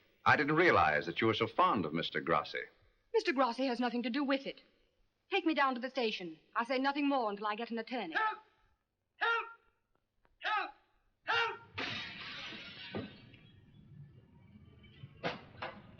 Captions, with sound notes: - I didn't realize that you were so fond of Mr. Grassi. - Mr. Grassi has nothing to do with it! Take me down to the station. I'll say nothing more until I get an attorney-- (man yells for help from next building) (sound of glass smashing)